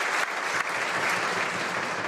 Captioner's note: some Applause